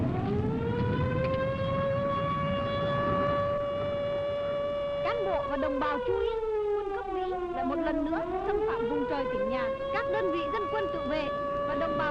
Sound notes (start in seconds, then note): 1.0 alarms blaring; 5.8 speaking foreign language